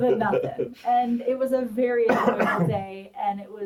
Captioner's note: coughs